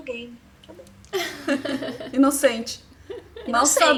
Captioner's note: laughter